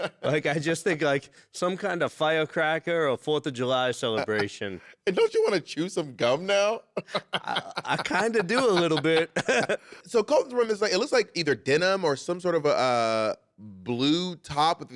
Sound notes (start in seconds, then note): 6.9 laughing